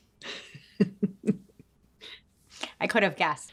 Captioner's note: both laugh